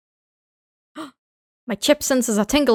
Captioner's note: gasp